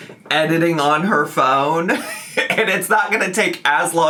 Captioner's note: laughing